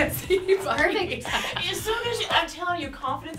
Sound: laughs

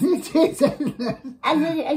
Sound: laughs

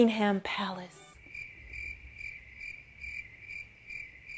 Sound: crickets chirping

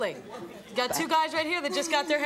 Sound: audience soft laughs

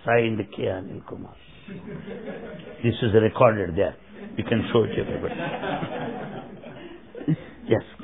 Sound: laughter

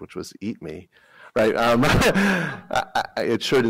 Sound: laughter

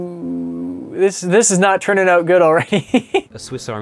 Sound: chuckles

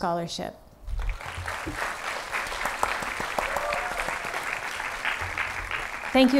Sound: applause

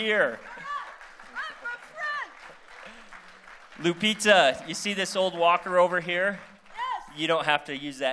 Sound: applause

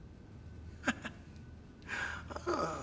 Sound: chuckles

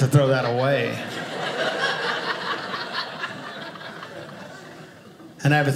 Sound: audience laughing

